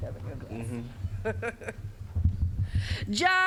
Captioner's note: chuckling